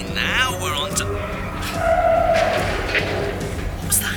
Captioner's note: tires screeching